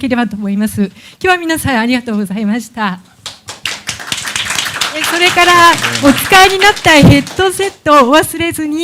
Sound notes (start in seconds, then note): 3.2 applause; 5.7 speaking japanese